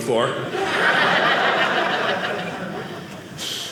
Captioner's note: audience laughing